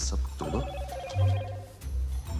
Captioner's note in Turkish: Telefon zili sesi